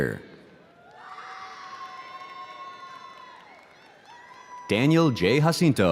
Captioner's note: audience cheering